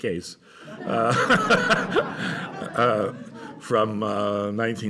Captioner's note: laughter